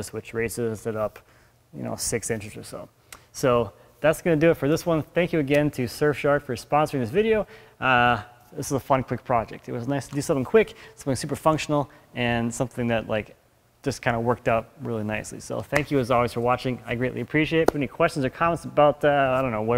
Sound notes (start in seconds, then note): none